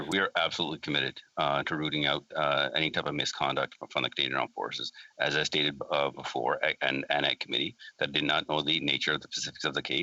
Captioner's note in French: voix de l'interprète